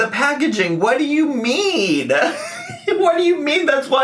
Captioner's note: laughs